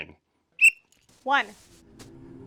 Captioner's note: whistle